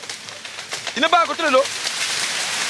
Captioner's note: foreign language